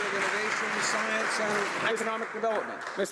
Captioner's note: some Applause